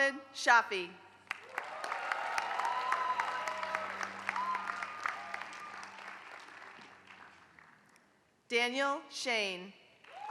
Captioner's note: applause; applause